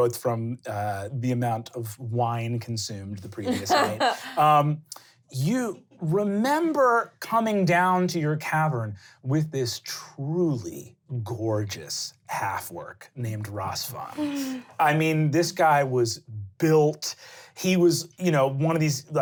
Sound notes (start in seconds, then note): 13.9 sighing